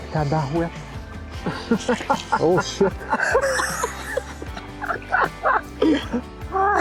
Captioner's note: laughing